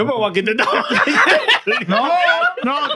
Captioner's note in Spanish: Hablando en idioma extranjero